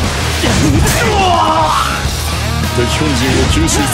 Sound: KO Scream

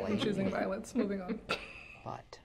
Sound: chuckles

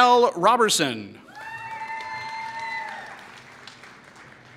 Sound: applause

